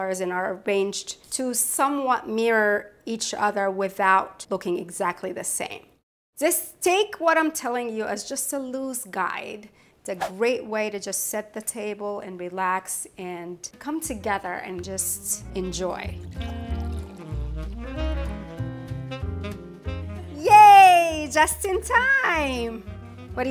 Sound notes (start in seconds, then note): 16.1 wine sloshes; 16.1 upbeat jazz music